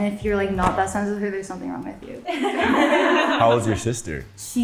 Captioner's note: laughs